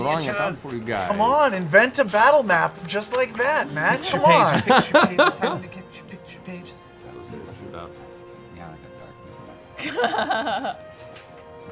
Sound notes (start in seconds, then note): 3.9 laughing; 8.6 adventurous music